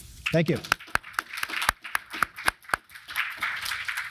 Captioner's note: crowd claps; claps